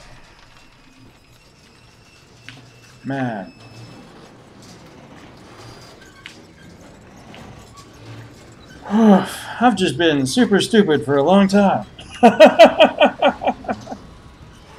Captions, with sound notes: Man. [sighing] Oof. I've just been super-stupid for a long time! [laughs]